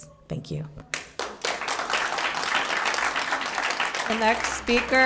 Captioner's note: applause